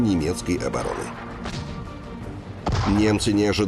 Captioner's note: sound of a gun firing